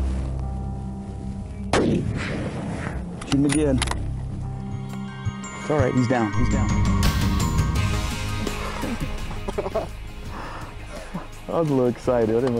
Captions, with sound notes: (gun blast) (shot echos) - Shoot him again. - It's all right. He's down. He's down. (upbeat music plays) (laughter) - I'm little excited.